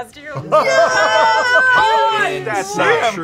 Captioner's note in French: acclamations